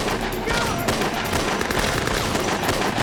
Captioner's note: gunfire